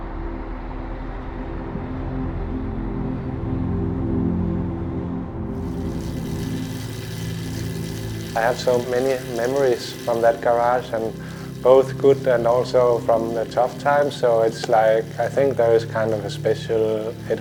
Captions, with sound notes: (gentle music) (freehub whirs) I have so many memories from that garage, and both good and also from the tough times, so it's like I think there is kind of a special...